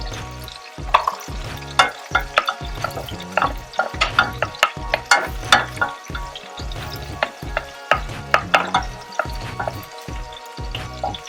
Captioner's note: spoon clanging; onion and garlic sizzling